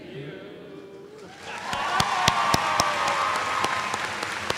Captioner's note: applause